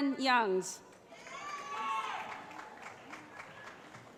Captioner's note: cheering